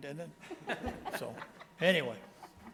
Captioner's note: board members laughing